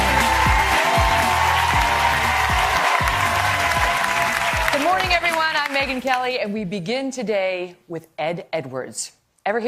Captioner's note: applause